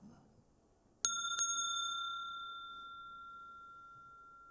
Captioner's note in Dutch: rinkelt bel